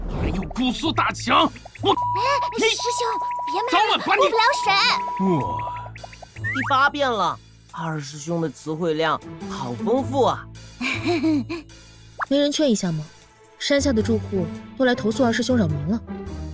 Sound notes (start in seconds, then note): 2.3 cursing